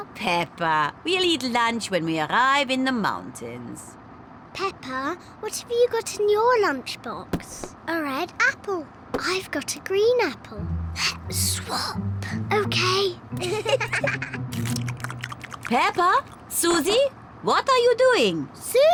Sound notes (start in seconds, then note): 11.2 whispering; 13.4 both giggle